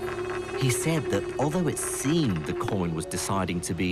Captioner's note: voiceover